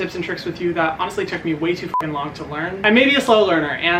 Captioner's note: beep